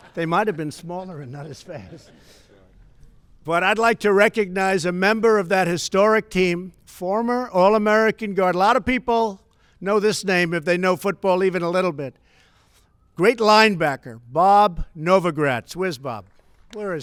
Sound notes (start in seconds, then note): 0.9 laughter